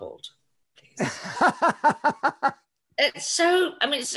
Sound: laughs

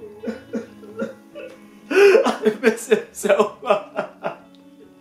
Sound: sobbing

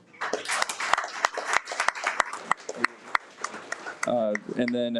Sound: audience applauds

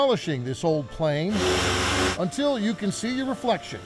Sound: tool whirring

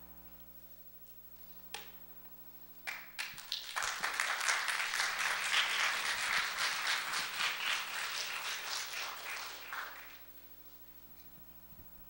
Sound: applause

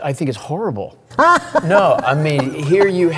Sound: laughs

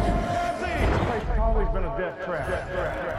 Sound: echoing; echoing

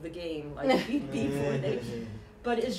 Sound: chuckling

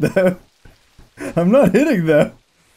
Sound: laughing

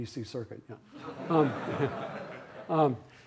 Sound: laughter

